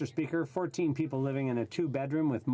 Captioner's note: speaking French